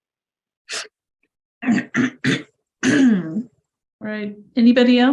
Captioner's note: coughing